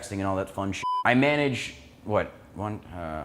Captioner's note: beep sound